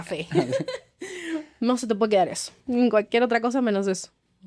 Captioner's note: laughs